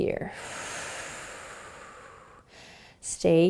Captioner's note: exhaling